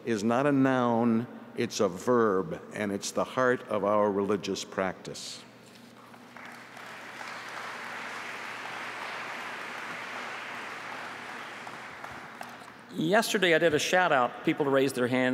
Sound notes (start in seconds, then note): 12.5 applause